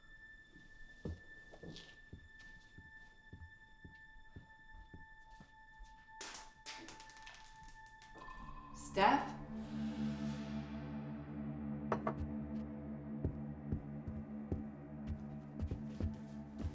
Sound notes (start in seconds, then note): 6.3 item rattling; 10.6 slow suspenseful music